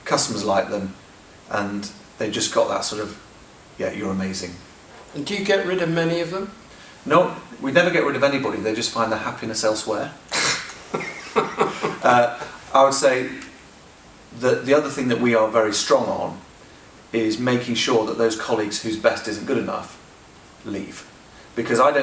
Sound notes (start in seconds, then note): 10.4 laughter